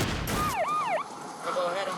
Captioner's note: screaming; siren